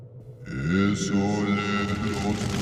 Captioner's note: chanting in foreign language; fire crackling